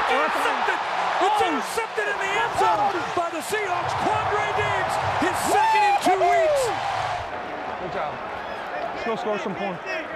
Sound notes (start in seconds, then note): 6.6 crowd and commentators cheering